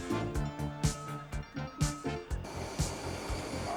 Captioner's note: beeping